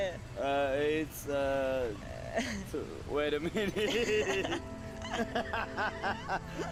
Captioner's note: laughs